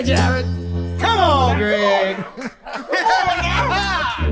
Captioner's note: both laughing